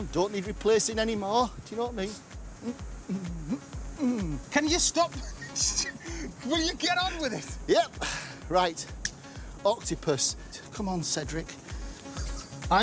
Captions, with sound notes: The old hips have gone, don't need replacing anymore, do you know what I mean? [hums] -Can you stop? -[both chuckling] Will you get on with it? Yep. [exhales] Right. Octopus. Come on, Cedric.